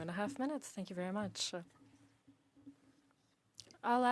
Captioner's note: speaking French